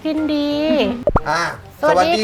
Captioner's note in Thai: เสียงเอฟเฟกต์